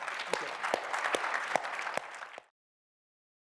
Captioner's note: applause